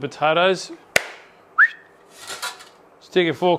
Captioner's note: whistles